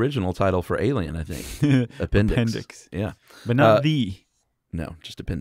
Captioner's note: laughs